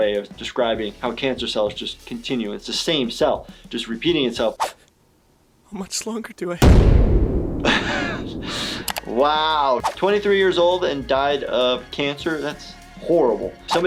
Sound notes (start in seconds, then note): 6.6 ominous drum boom; 7.6 laughing